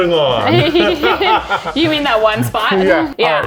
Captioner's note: laughs